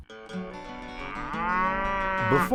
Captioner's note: cow mooing